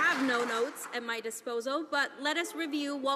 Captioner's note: some Applause